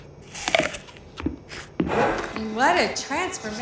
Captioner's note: crunch